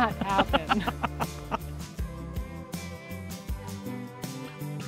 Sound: laughing

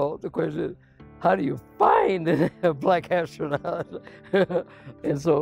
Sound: laughs

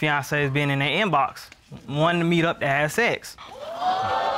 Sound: audience exclaims

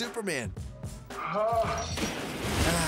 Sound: groans; splash

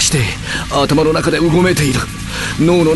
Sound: electrical sounds

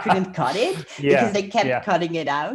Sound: laughs

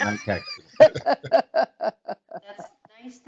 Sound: chuckling

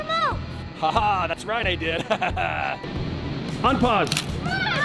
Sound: laughs

